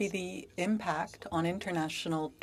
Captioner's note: speaking French